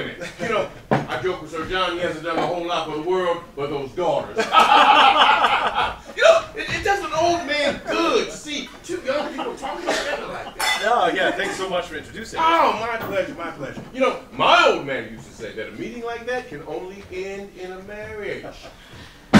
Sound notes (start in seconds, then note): 4.3 laughter